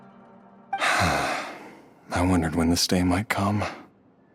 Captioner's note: sigh